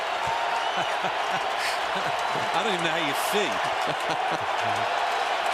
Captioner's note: laughs